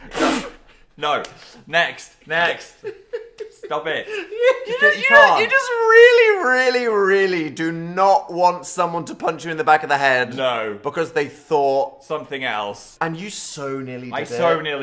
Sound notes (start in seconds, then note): 2.8 laughing